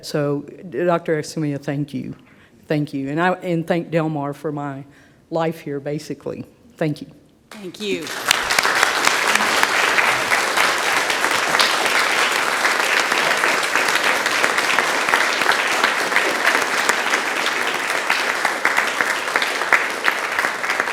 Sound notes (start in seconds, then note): 9.0 audience claps; 11.9 claps continue